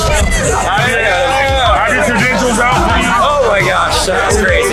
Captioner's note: crowd cheering